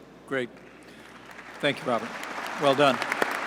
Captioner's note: applause